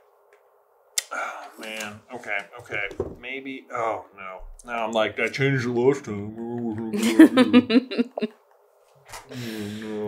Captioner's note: grumble grumble